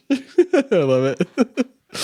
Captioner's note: chuckling